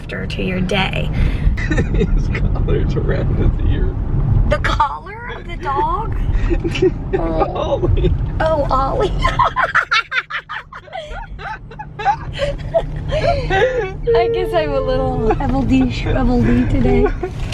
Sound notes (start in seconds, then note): 1.6 laughing; 9.0 laughter